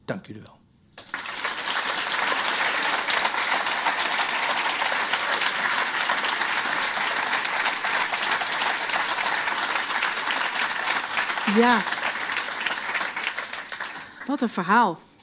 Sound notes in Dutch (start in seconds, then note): 0.9 Applaus